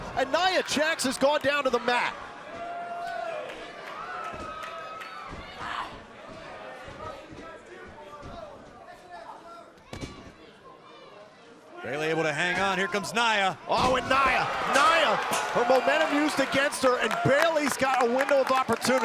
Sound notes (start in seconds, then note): 0.0 crowd cheering